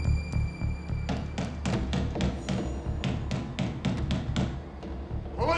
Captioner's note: knocking on door